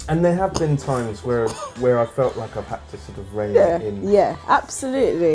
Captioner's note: laughs